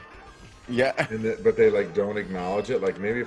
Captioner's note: laugh